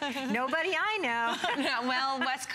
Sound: laughter

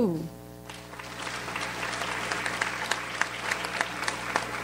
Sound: audience applauds

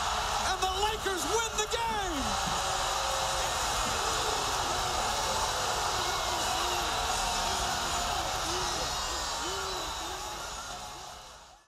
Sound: crowd cheers

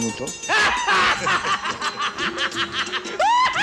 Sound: laughs

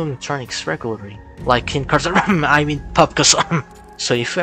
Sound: cough

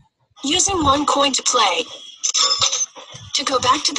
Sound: voiceover

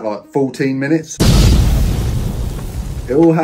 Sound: explosion booming

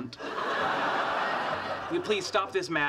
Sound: audience laughing

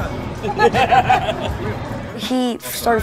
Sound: laughing

